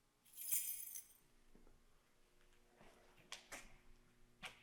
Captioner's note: keys clanging